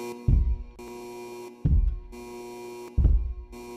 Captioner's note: heavy Footsteps